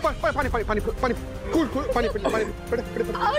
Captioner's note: coughs